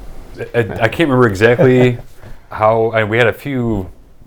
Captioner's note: laughter